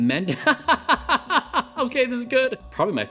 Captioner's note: Bryan laughing